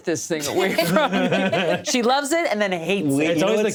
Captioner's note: all laugh